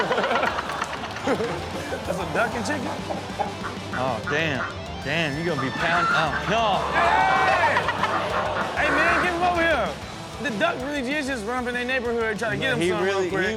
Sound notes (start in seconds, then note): 0.0 audience laughs; 7.3 audience gasps